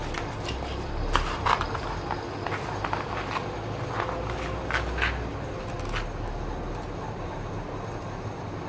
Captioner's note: fan and construction sound intensifies